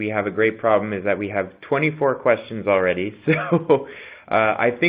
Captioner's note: chuckles